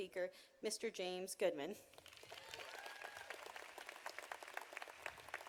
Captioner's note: audience applauding